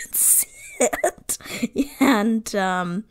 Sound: laughs

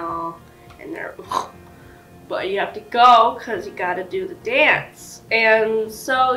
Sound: snort

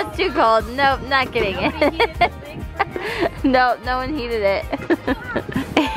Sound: laughs

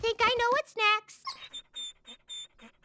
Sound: whimpering

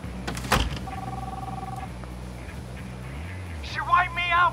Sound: phone ringing

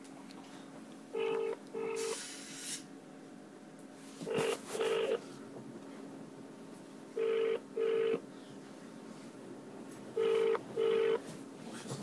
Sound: phone dialling

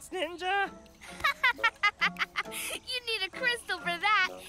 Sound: laughs

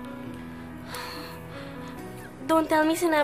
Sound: exhales

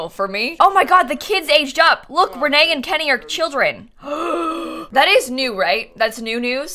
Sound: gasps

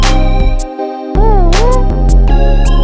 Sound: woo-oo-ooh

